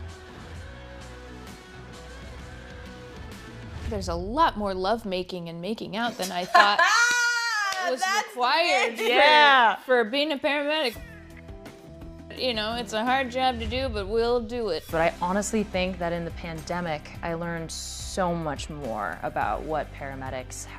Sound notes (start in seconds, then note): 6.1 laughter